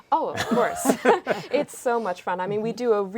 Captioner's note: laughing